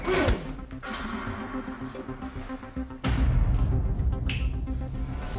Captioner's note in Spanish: Patadas